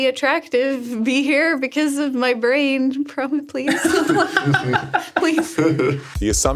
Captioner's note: laughs